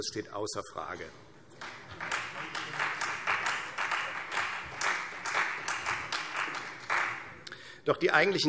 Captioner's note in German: Beifall Freie Demokraten und vereinzelt CDU